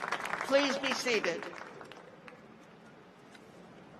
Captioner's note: cheers and applause